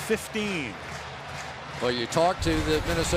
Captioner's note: crowd chanting